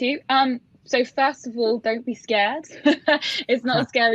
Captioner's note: laughs